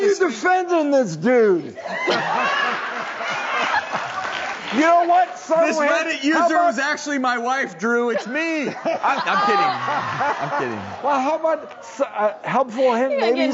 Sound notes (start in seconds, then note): 1.8 audience laughing loudly and clapping; 8.0 audience laughing